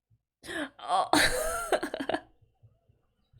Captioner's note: laughs